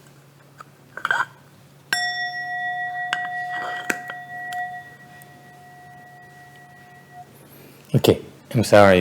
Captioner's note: master rings the bell